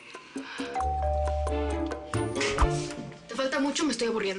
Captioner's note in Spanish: Suena timbre